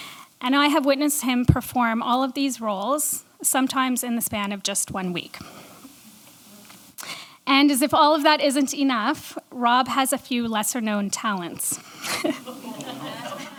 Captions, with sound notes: and I have witnessed him perform all of these roles sometimes in the span of just one week And as if all of that isn't enough, Rob has a few lesser-known talents (laughter)